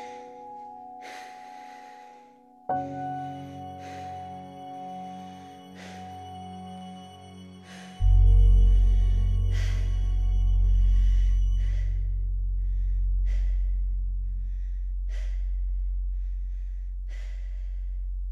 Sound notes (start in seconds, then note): 9.3 slight wheezing